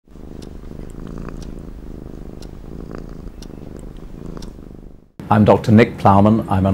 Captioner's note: cat purring